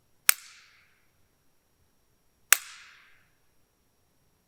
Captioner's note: wood snapping